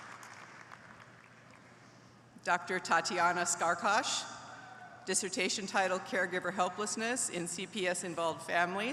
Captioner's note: applause